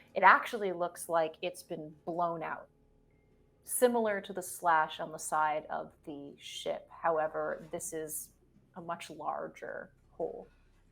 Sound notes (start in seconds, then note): none